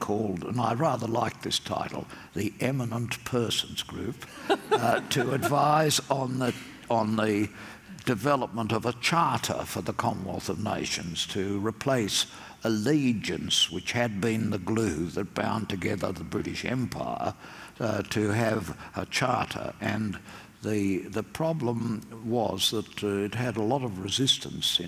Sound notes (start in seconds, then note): 4.3 laughter